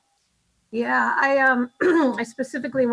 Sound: clears throat

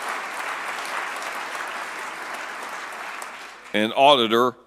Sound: applause

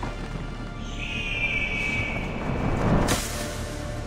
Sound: eagle screech

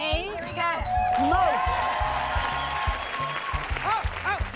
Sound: bell dings

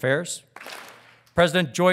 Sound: audience claps

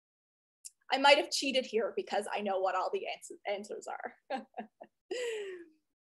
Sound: chuckles

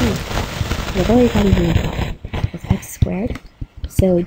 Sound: microphone rustling

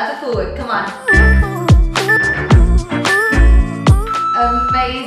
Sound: timer beeping

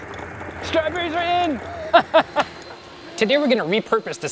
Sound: laughs

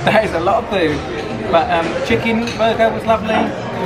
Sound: none

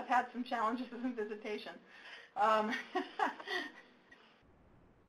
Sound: laughs

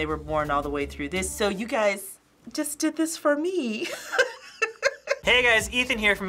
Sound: laughs

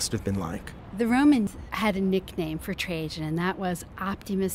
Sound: voiceover

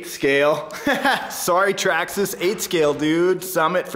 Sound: laughing

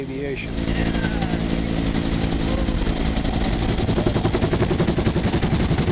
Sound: helicopter blades whirring

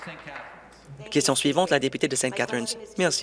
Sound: applause

